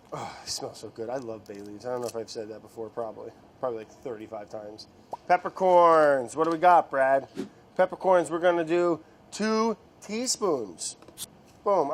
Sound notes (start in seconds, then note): none